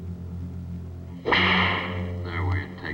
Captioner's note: whip cracks